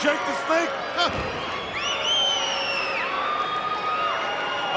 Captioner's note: crowd cheering